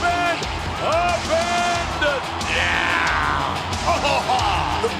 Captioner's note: laughs